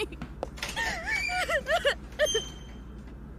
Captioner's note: door opens; door closes